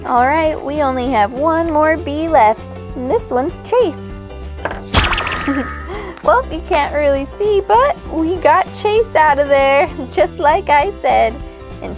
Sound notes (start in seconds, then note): 4.9 popping